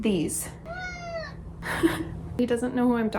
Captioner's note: cat meows